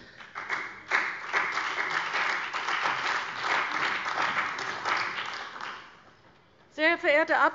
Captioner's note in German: Beifall bei der CDU und dem BÜNDNIS 90/DIE GRÜNEN